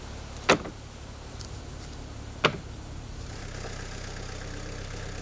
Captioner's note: wood thudding; machine whirring